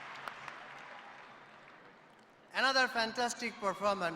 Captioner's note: cheers and applause